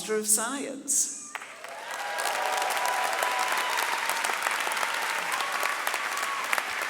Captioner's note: audience cheering and clapping